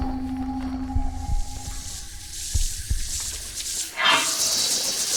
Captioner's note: creature chittering